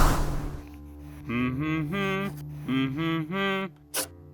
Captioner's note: humming the tune